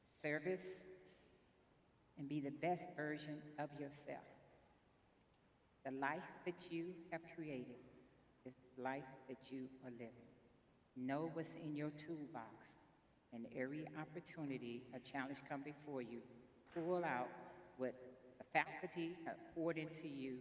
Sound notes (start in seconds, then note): none